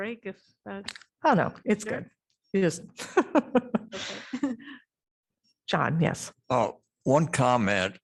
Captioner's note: laughter